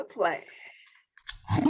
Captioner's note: laughs